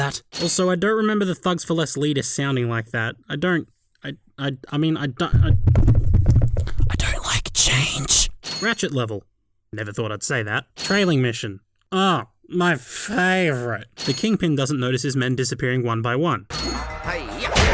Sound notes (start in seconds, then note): 6.7 whispering; 11.8 sarcasm